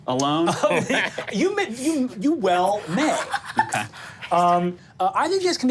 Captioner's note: laughs; laughing